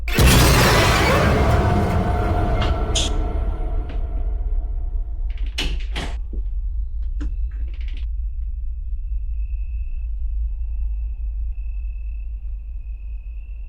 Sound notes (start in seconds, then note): 0.0 jump scare music; 5.7 door shuts; 8.0 floor creaks